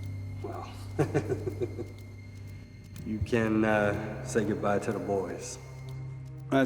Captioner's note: chuckles